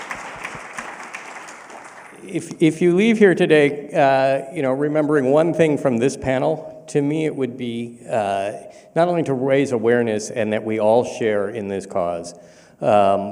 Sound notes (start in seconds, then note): 2.3 applause